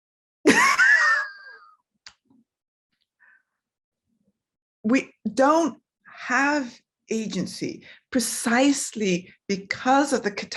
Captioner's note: laughs